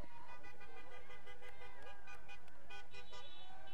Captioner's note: horns honking